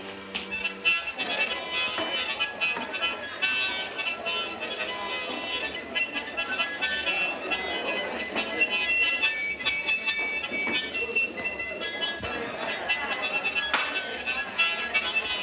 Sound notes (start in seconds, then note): 0.8 bright music; 0.8 people chattering